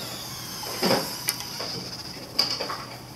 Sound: mechanical whirring

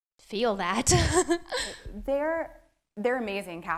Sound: laughs

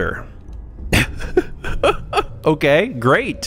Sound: laughing

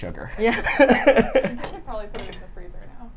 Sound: chuckles; laughs

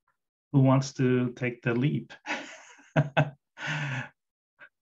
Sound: laughs

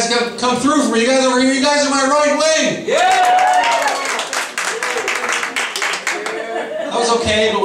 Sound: louder applause

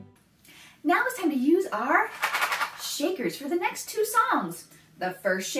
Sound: shakes rattle

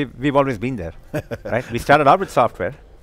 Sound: chuckles

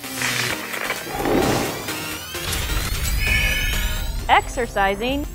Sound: sound Effects

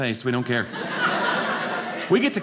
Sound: audience laughing

